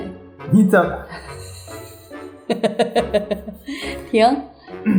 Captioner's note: laughter